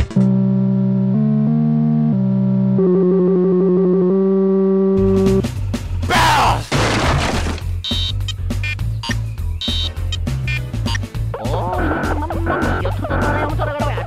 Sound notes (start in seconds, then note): 6.7 DK dropping bareels